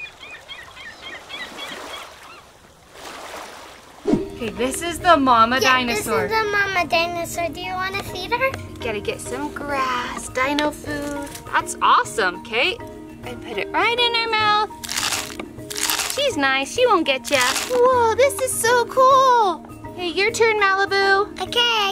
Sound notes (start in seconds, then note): 0.0 waves lapping; 0.0 seagulls squawking; 4.0 air whooshing; 14.8 food crunching; 17.2 food crunching